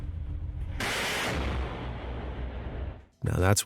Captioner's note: gun blasting